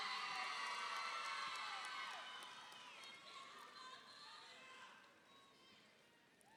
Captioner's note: audience applauds; audience cheers